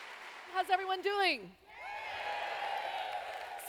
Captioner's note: applause; cheers